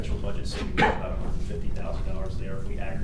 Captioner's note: coughing